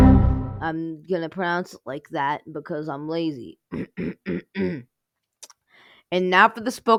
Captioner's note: clears throat